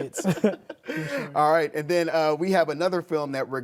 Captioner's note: laughs